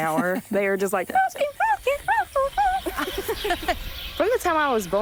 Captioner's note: mimicking birds